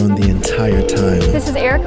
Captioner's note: phone rings